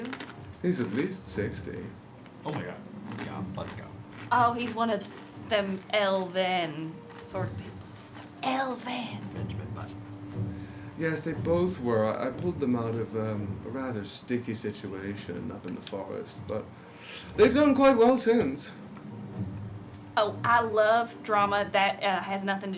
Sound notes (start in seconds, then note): 8.0 whispering loudly